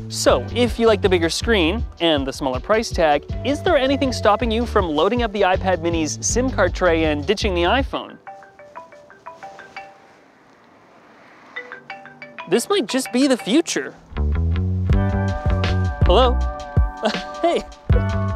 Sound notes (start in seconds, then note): 8.2 classic Apple ring tone; 14.2 upbeat music